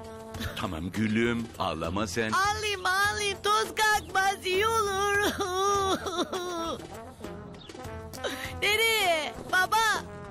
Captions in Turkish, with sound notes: Tamam gülüm ağlama sen. Ağlayayım ağlayayım toz kalkmaz iyi olur. (Ağlama sesi) Nereye? Baba?